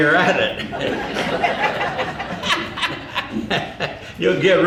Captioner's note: audience laughing